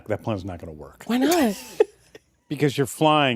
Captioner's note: laughter